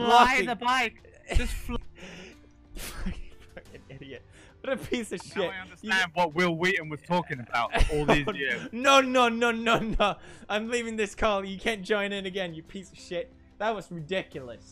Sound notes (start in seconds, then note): 4.6 laughs